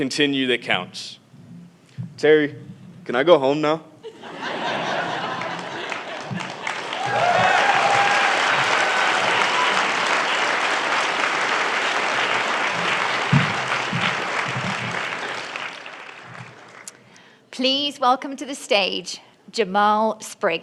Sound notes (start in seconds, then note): 8.0 laughter; 10.0 applause